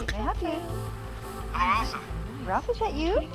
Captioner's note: on phone